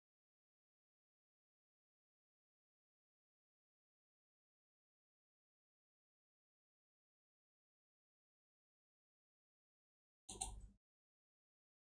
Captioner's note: blank Audio